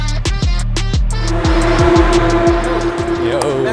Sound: car sounds

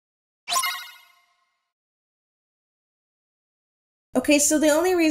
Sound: Kingdom Hearts information bar sound effect

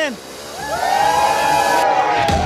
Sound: cheers; loud chatter

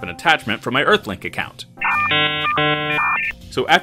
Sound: dial-up sound

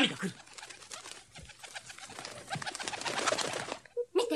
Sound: SFX: bird wings fluttering

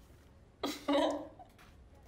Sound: laughing

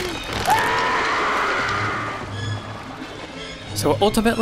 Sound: Quint screams

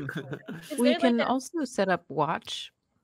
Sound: chuckles

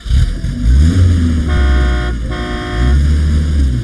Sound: horn honking; engine starts

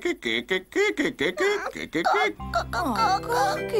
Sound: sobs

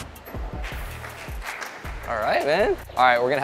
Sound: onlookers applauding

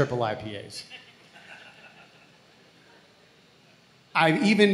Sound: audience laughs

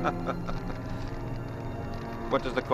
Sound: laughing

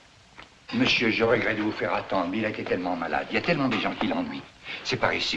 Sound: French

